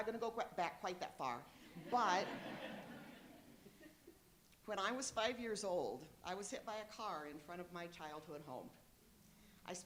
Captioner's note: laughter